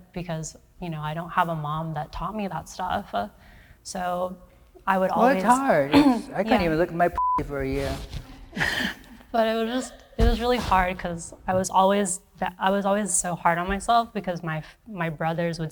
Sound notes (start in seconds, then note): 7.2 beep